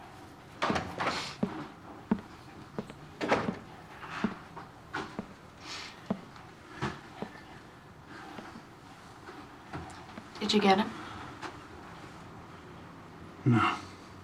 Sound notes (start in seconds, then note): 0.6 door closes; 1.5 footsteps approaching